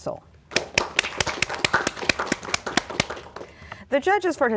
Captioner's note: applause